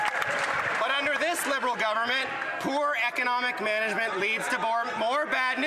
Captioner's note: some Applause